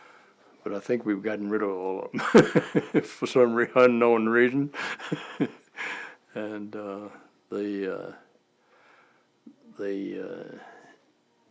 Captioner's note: chuckle